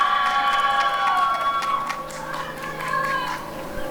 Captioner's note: applause and cheering